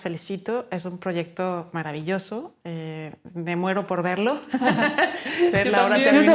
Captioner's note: laughing